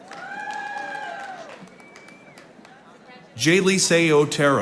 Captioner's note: audience applauding